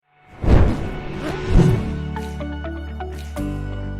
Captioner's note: flame whooshes; bright music